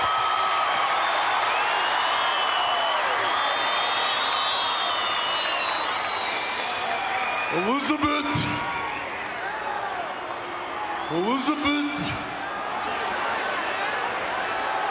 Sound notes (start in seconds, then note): 2.1 applause